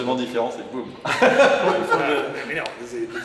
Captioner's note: laughters